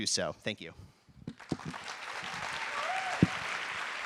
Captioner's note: applause